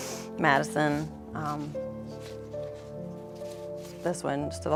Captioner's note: shuffling